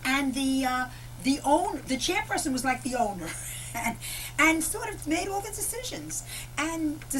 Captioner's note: laughter